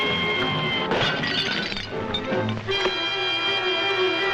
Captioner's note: glass clatters; dramatic music